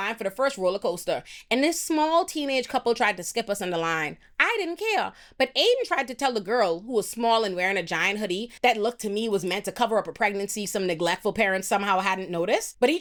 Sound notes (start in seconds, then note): none